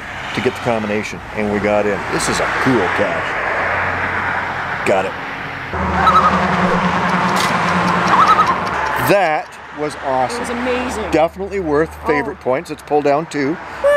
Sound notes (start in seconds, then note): 5.8 loon calls; 8.0 loon calls